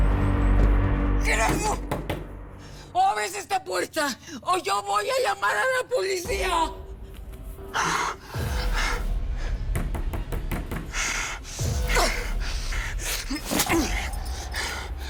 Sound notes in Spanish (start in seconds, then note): 9.1 Jaguar jadea; 11.4 Toques en la puerta